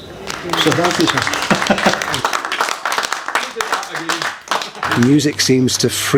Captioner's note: applause